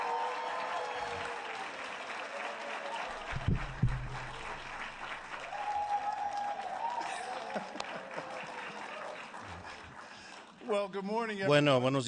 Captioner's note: applause